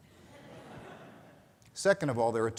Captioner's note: audience laughing